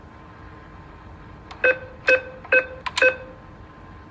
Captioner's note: beeping